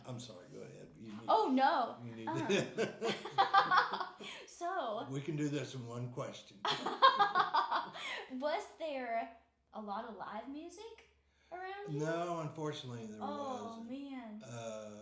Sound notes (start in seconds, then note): 2.2 laughing; 6.7 laughing